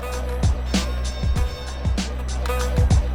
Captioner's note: upbeat music; bell dings